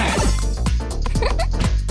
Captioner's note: giggle